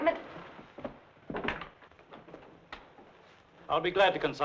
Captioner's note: door rattling